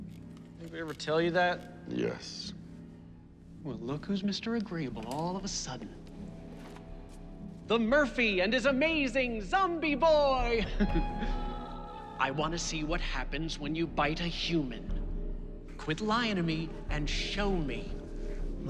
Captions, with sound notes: Anybody ever tell you that? - Yes. - Well, look who's Mr. Agreeable all of a sudden. The Murphy and his amazing Zombie Boy. [laughs] I want to see what happens when you bite a human. Quit lying to me and show me.